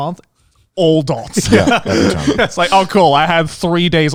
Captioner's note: chuckling